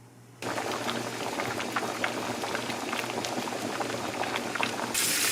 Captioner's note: boiling